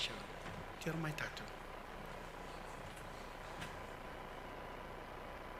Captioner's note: speaks foreign language